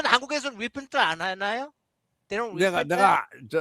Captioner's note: non-english speech